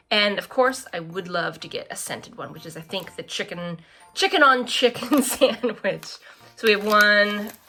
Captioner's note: laughs